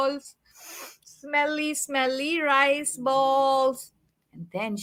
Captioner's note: sniffs